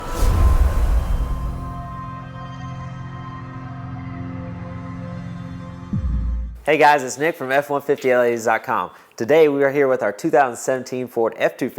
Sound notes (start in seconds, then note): 0.0 sound effect